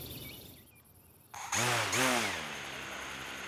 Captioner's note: drove props revving